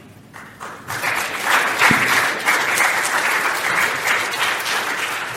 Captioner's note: applause